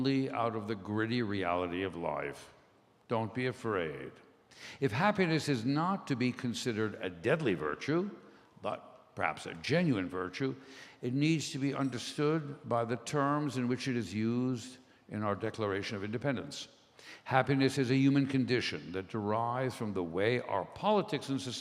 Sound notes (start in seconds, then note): none